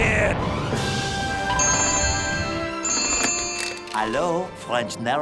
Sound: phone ringing

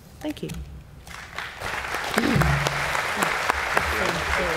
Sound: applause

